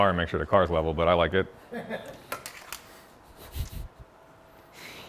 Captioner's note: friends laughing